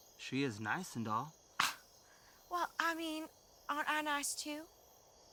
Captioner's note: scoffs